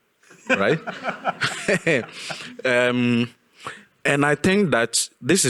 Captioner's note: audience laughing